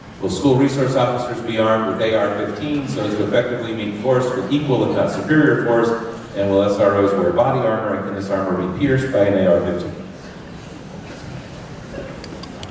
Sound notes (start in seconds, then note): none